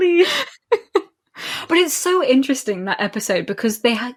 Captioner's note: laughing; laughs